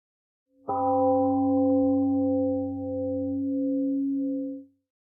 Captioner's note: temple gong sounds and fades